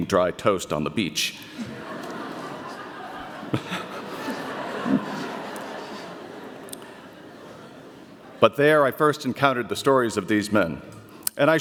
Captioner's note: audience laughter